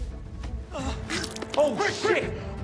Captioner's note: blood gushes